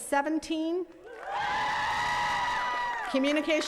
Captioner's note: attendees cheering and clapping